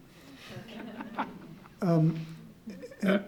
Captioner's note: audience laughs